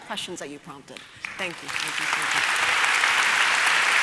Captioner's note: applause